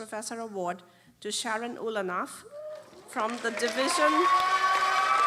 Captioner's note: applause